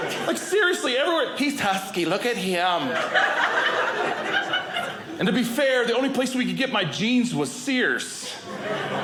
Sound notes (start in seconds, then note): 2.7 audience laughing